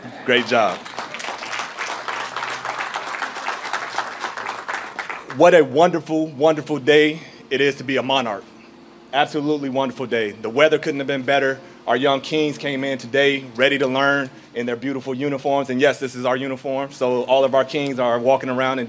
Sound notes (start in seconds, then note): 3.1 applause